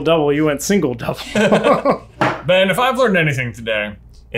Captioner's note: laughter